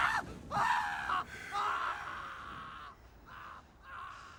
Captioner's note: sighs